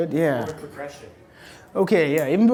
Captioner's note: voiceover